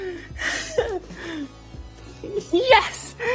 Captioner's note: excitement noises